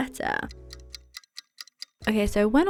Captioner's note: watch ticking